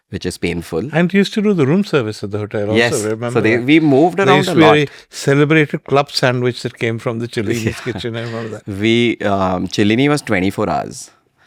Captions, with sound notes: which is painful. And you used to do the room service at the hotel also, remember? Yes. So they-- we moved around a lot. There used to be a celebrated club sandwich that came from the Celini [laughs] kitchen. I remember that. Celini was 24 hours.